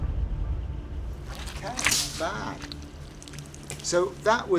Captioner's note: gelatin squelching